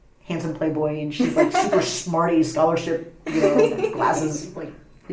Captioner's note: laughs; laughs